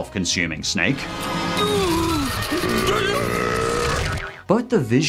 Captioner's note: groaning and burping